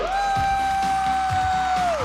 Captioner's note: whooping